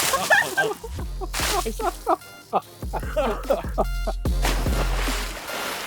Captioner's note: splash!!!